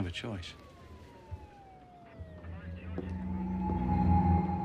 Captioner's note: siren blaring, radio chatter